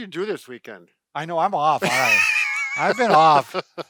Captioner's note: laughing